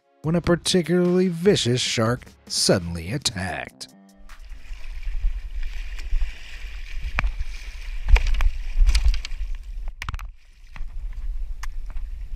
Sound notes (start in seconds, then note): 8.4 paddle splashing